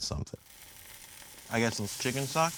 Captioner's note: wok sizzling